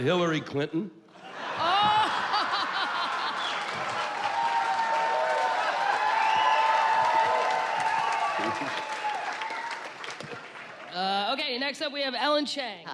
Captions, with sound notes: - Hillary Clinton. - [applause and cheers] - [whistles] - Uh, okay. Next up, we have Ellen Chang.